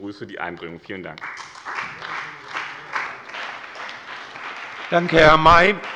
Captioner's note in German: Beifall bei dem BÜNDNIS 90/DIE GRÜNEN und der CDU